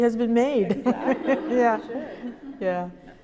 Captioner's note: laughter